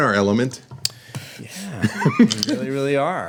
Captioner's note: laughter